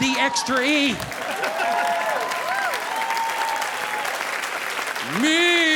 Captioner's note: audience applauding